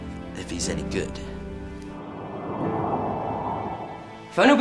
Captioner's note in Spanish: viento que sopla